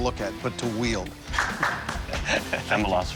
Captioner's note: clapping